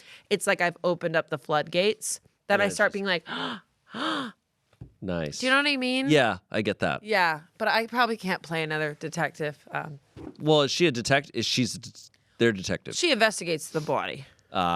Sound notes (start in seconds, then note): 4.4 gasps